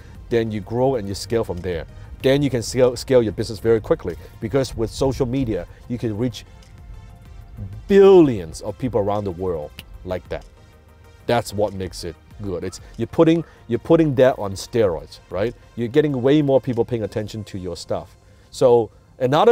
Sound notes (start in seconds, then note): 9.7 snaps fingers